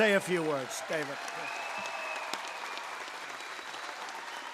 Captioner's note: applause